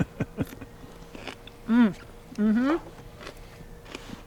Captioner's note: teeth crunching